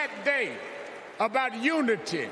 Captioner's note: applause